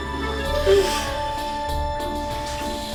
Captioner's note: moaning